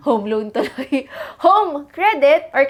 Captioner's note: giggles